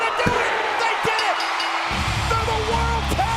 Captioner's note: bell dinging